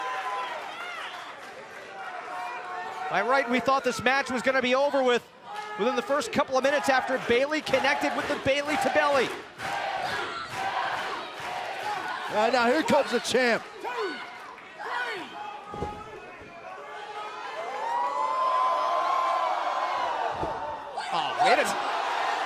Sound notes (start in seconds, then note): 10.1 fans chanting